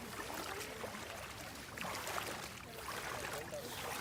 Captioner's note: water splashes